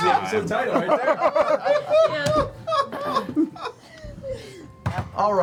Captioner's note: laughter